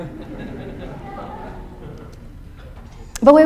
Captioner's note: audience chuckles